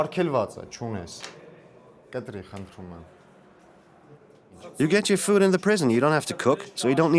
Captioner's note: voiceover